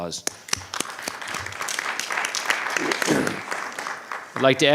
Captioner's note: audience applauding